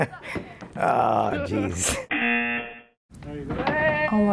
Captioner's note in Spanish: risas; zumbador